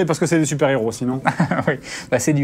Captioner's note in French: rires